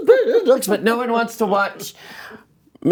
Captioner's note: laughing